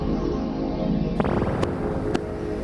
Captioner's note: dramatic music; electronic bubbling noise